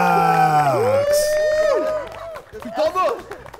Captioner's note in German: Jubel, Klatschen